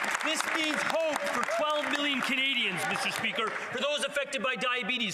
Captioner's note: some Applause